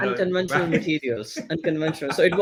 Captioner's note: laughing